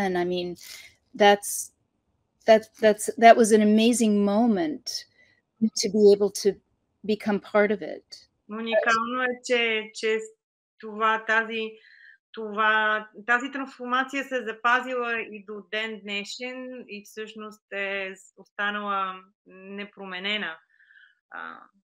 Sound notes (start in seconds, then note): 8.0 foreign Language Spoken